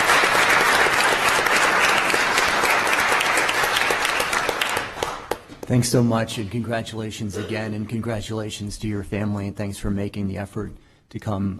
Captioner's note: applause